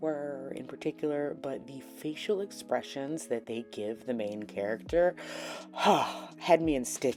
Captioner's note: gasp